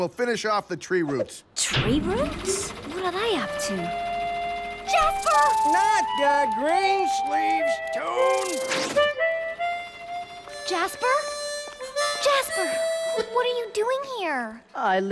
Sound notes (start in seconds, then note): 3.9 motor starting; 4.9 harmonica playing